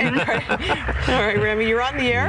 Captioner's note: laughter